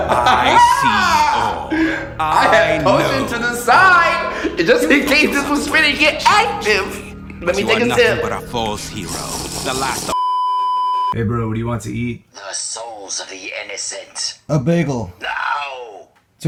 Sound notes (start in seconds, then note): 1.6 laughing; 8.1 minecraft potion sfx; 10.1 beeeeeeeeeeeep